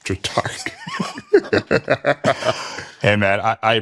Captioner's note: both laugh